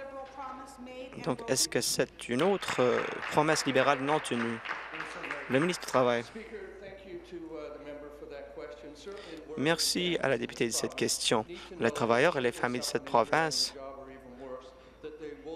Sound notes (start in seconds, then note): 4.8 applause